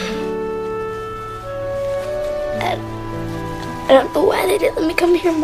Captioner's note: sighs